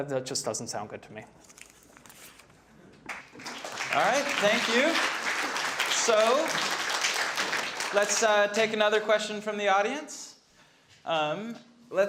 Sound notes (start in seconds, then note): 3.0 audience clapping